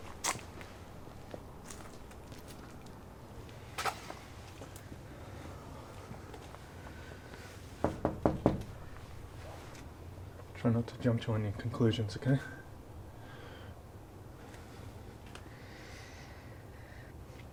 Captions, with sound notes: (exhaling) (knocking) Try not to jump to any conclusions, okay?